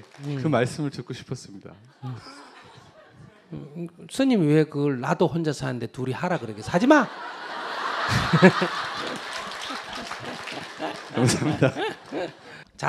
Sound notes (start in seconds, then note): 6.4 audience Laughter